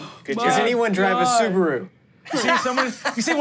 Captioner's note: laughs